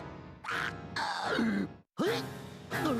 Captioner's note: choking